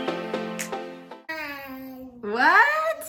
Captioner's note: exclaims